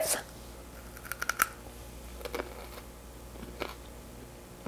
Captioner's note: chewing